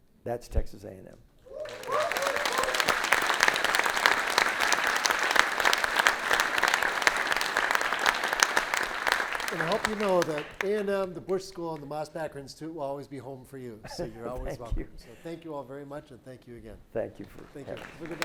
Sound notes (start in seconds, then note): 1.4 audience cheers; 1.5 audience applauds